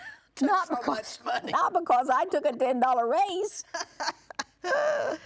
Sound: laughs

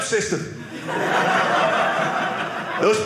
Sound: audience laughing

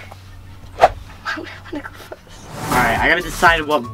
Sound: air whooshing

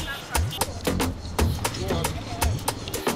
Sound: keke driver speaking pidgin English

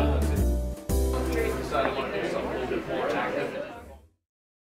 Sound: people chatting

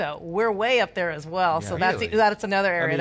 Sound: group laughing

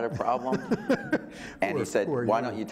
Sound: laughing

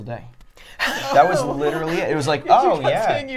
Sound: chuckling

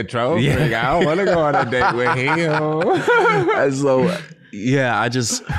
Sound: laughs

